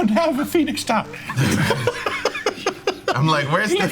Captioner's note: laughing